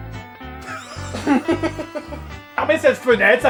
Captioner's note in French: rires étouffés